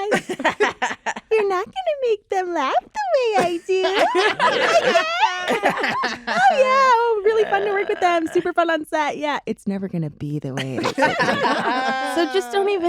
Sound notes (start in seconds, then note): 0.0 laughter; 3.3 laughter; 9.3 in a serious tone